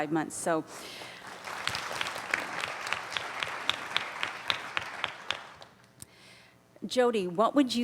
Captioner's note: applauding